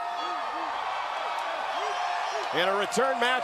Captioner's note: crowd cheering